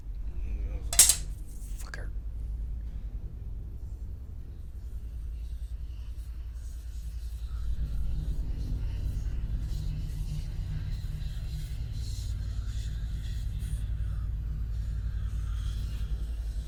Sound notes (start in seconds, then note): 3.6 ghost whispers